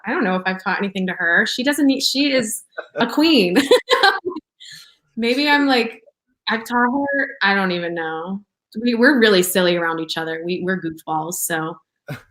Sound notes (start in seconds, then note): 2.8 laughs